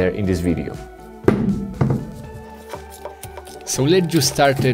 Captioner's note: clay thuds